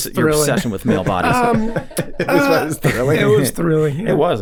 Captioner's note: all chuckling